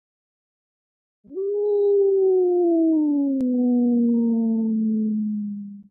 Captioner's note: wolf howl